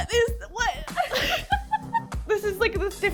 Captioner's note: person laughing